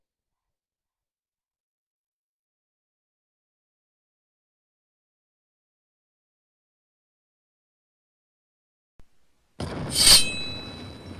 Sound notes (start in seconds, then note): 9.6 explosion; 9.9 stabbing sound